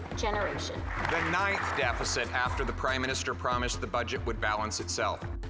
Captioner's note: applause